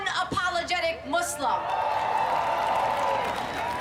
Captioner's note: applause